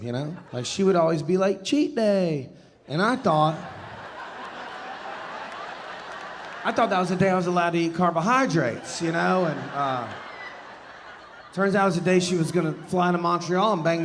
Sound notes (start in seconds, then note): 3.8 audience laughing